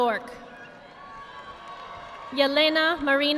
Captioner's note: audience applauding